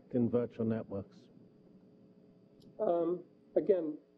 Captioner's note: pause